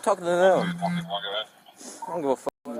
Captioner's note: radio chatter